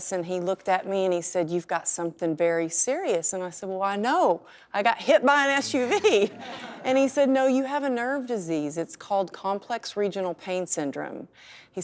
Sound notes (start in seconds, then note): 5.5 laughs